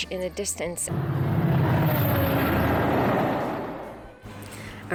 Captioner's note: noisy train passing